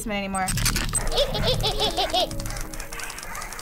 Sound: flashlight rattles; Tattletail chuckling

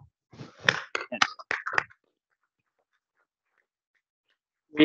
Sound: audience clapping

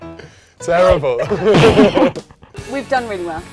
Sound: laughs

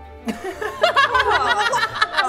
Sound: laughing

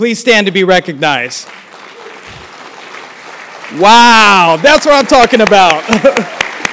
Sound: applause; laugh

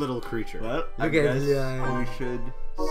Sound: adoring mumbles

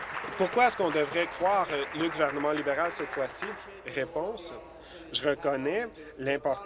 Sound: applause

